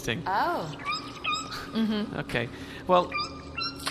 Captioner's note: squeakily